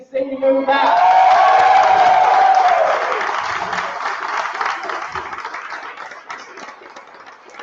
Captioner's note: applause